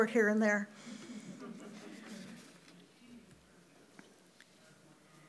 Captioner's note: audience chuckles